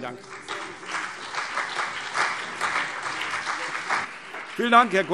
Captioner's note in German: Beifall